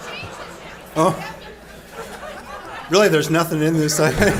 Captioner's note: audience members shouting